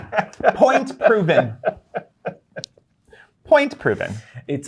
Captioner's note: guy laughing